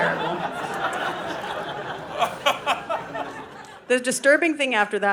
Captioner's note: audience laughing